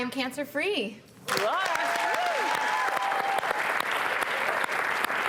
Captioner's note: cheering and applause